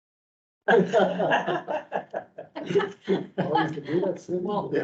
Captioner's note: members laughing and chattering